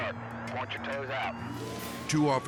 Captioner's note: sirens blaring; dramatic air whoosh